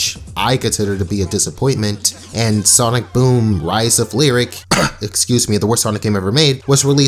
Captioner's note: cough-excuse me